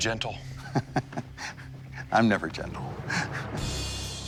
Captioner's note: laughs